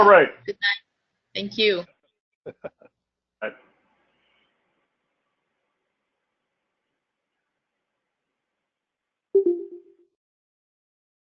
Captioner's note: laugh